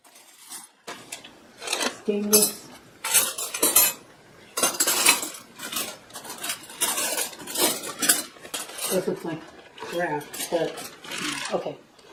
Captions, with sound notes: Stainless. (Sound of flatware clattering against itself) This looks like... crap, but, hm, okay.